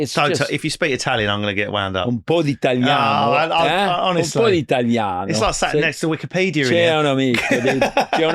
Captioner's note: speaking Italian